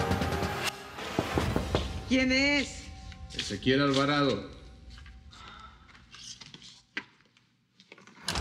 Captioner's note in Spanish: Toques en la puerta